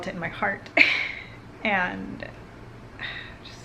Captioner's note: laugh